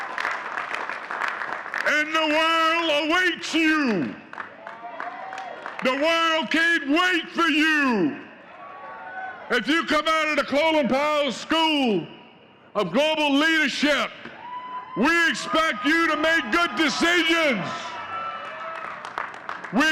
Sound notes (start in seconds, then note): 1.8 audience cheering and clapping